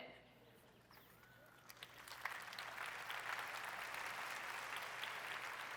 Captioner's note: applause